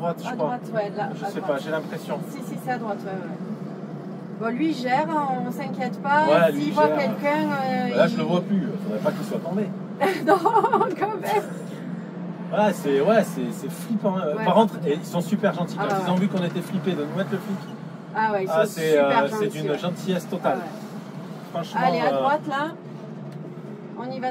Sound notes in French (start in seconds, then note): 10.0 rires